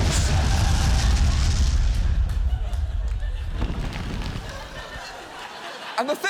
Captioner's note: audience laughs